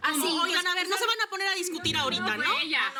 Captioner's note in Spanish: Hablan al unísono